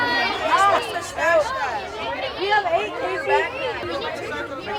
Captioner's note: students chattering